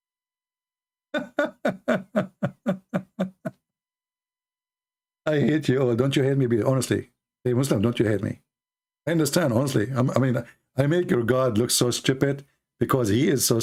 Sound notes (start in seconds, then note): 1.1 Ketawa